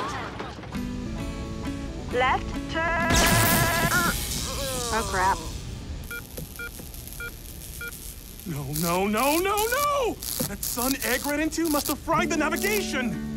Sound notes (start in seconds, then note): 0.8 guitar strumming; 6.0 beeping